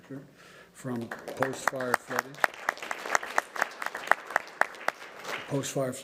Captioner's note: applause